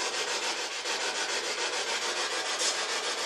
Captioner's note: scratching